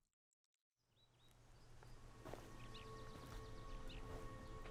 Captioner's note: birds chirping